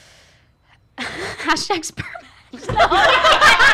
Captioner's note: laughs